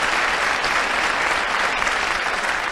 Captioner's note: applause